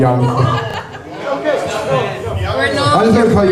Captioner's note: laughter